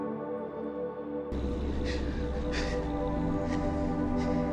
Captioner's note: wolf growls